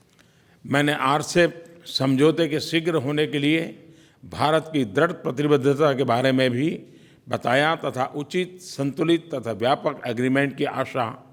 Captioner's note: PM Modi speaks in Hindi